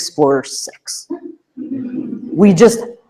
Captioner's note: laughter